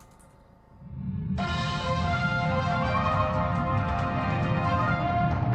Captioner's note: news intro plays; typing continues